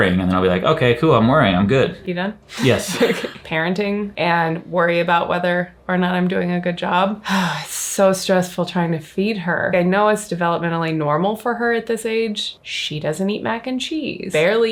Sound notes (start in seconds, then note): 2.5 chuckles; 7.2 exhales deeply